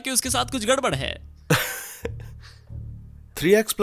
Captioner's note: laughs